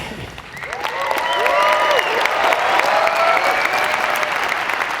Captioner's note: audience cheering